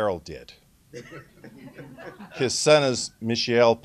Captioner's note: laughter